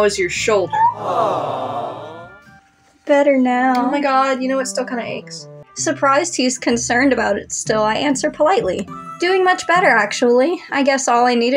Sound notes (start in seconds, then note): 0.7 crowd 'Aww'ing; 0.9 squeak